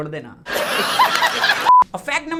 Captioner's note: laughs